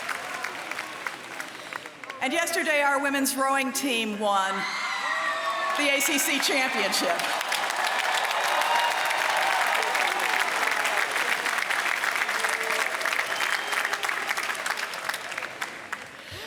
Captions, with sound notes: And yesterday our women's rowing team won the ACC championship. [CHEERS AND APPLAUSE]